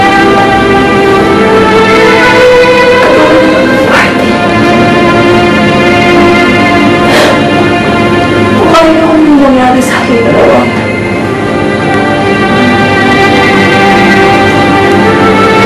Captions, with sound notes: Just like at the party. [scoffs] How I agreed to something between us.